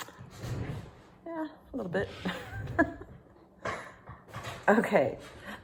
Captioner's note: laughing